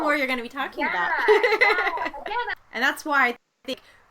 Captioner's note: laughing